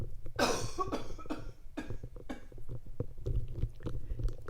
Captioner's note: coughing